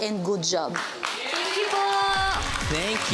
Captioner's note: audience applauding